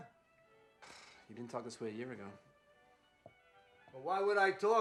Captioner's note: sighs